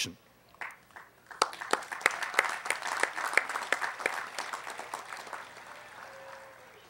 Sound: applause

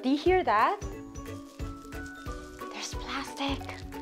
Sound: crunching

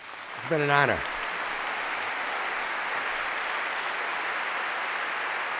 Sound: cheers, applause

